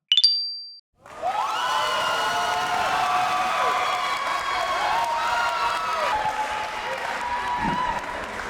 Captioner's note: applause